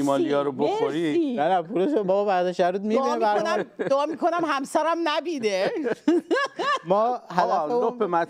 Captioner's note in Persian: خنده